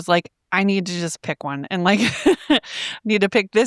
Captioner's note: laughing